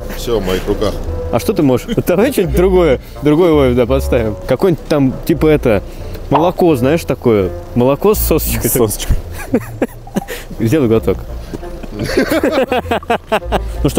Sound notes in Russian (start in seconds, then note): 9.3 смех; 11.8 смех